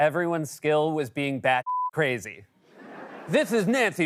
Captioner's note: laughter